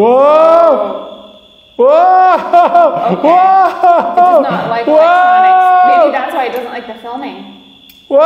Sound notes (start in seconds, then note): 2.1 laughs